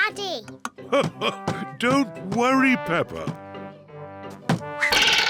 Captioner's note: laughs